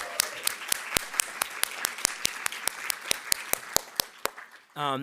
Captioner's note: audience applauding